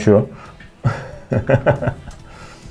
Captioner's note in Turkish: gülüşme